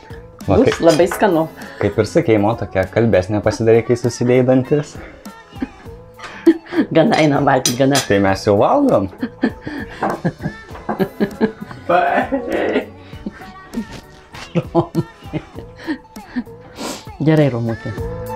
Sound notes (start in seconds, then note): 9.3 laughs in Lithuanian